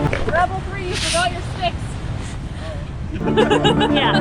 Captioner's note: laughs